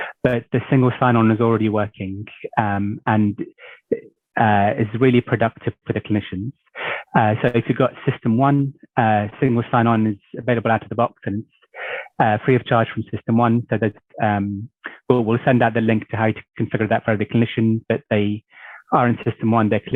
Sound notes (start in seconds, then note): none